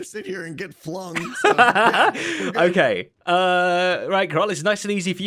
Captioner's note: laughs